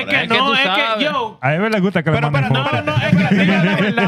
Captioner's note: speaking Foreign Language